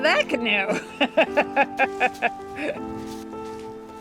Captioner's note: laughs